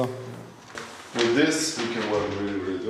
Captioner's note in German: englisch